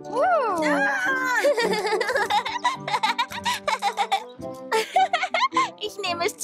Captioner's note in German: Gelächter